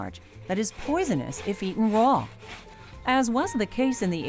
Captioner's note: grinding sound